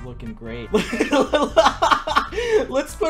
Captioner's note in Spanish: Risas supongo xd